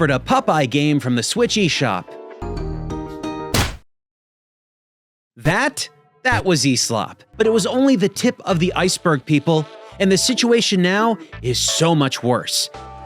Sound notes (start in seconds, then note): 2.2 cheerful music; 3.5 blow lands